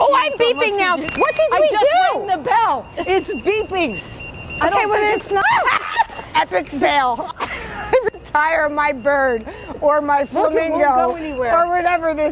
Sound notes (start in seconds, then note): 7.2 laughs